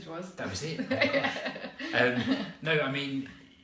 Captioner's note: laughter